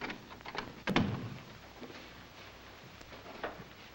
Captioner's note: door thuds shut